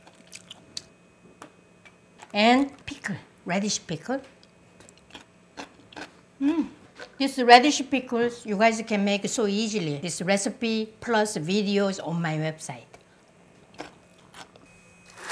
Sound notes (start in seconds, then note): 4.8 crunching